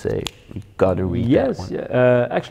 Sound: snaps fingers

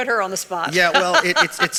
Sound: laughs

